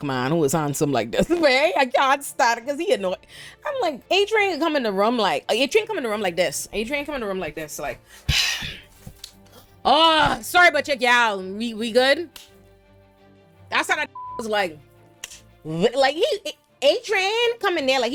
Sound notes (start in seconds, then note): 8.3 sighs; 14.1 beep